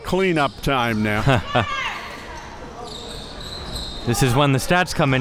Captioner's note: giggles